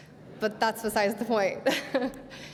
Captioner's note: laughter; laughs